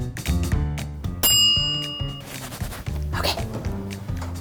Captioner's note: timer dinging